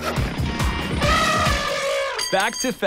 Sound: hammering and drilling; elephant trumpets

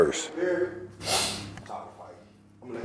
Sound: sniff

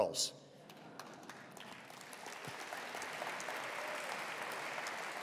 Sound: attendees applauding

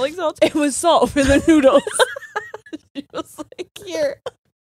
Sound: both laughing

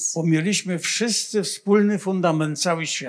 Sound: foreign language

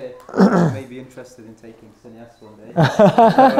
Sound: laughs

